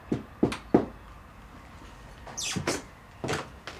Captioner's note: door knocking